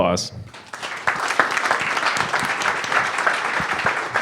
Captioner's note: clapping